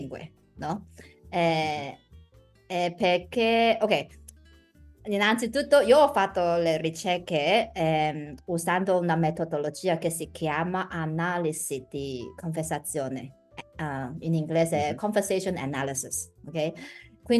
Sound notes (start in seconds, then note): 10.6 speaking in Italian